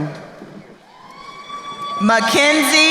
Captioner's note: crowd cheering